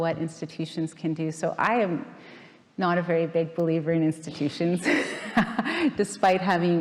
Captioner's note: laughing